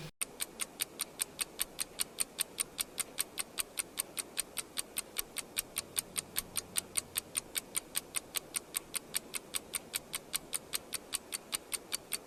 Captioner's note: clock ticking sound effect